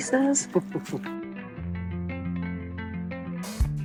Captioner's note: laughs